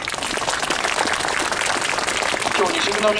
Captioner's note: clapping